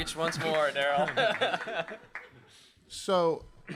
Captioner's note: laughing